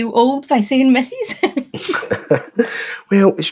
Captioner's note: both chuckle